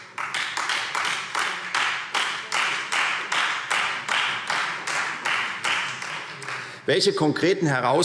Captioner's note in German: Beifall Freie Demokraten